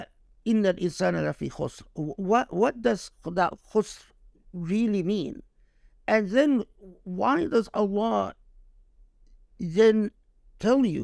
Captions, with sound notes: (speaking Arabic) what does (speaking Arabic) really mean? And then why does Allah then tell you that the answer